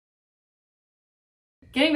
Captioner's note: silence